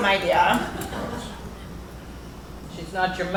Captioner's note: laughter